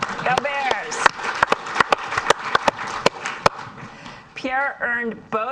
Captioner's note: audience applauds